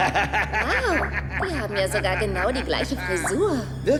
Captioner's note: laughing